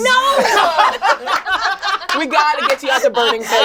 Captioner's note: all laugh